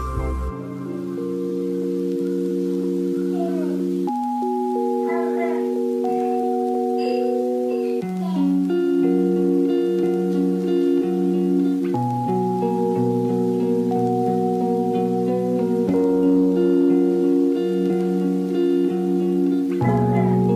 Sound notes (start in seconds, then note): 20.0 barks